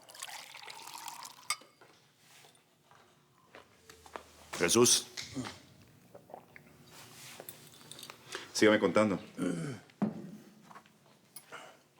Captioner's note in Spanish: Ruido al verter